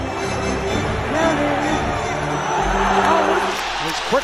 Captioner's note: crowd sighs